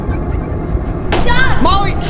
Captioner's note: disembodied laughing